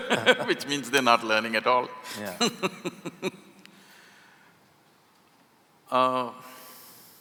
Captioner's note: laughs; laughs